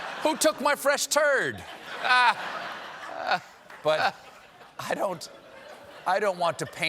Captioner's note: laughter